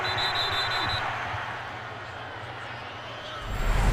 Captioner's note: whistle blows